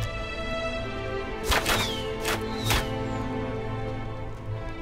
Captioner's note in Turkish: Ok Atılma Sesi